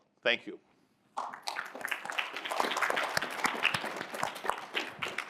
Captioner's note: applause